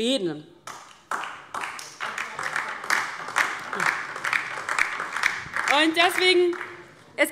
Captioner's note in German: Beifall DIE LINKE